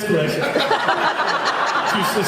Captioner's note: laughs